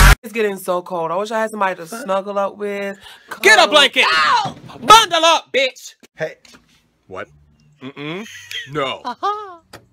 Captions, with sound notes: It's getting so cold. I wish I had somebody to snuggle up with, co— GET A BLANKET. [yells] BUNDLE UP BITCH. Hey. What? NO. [small laugh]